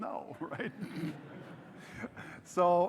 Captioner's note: audience laughes